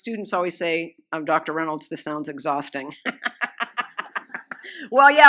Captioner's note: laughs